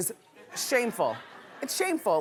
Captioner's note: laughing